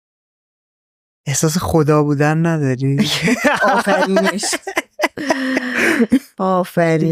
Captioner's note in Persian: خنده